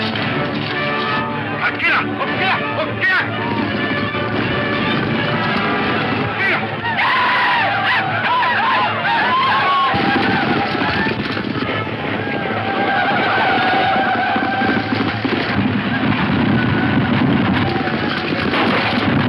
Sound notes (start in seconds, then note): 0.2 speaks in foreign language; 5.6 Indians yell; 14.5 gunshots